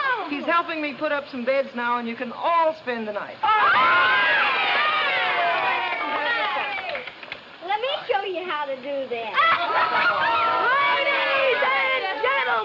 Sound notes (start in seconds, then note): 3.4 children cheering; 3.4 children clapping